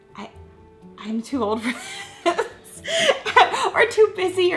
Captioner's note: laughs